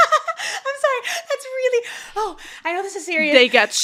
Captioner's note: Continues to laugh at Elowin